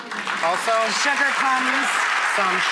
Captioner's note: audience claps